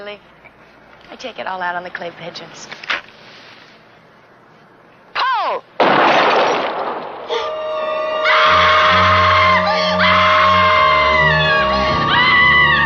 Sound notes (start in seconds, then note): 3.5 gun clicking; 5.8 gun firing; 7.2 tense music; 7.3 woman in blue shirt screaming